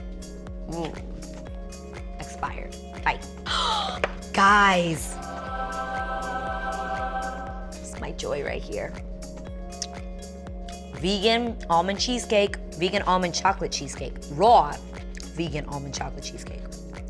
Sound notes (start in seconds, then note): 3.4 gasps; 6.2 ethereal music